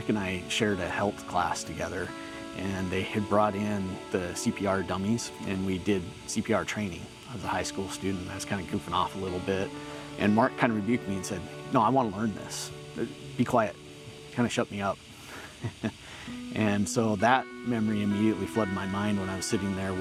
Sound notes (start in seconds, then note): 15.3 chuckles